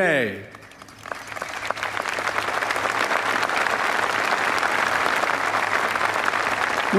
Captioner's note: applause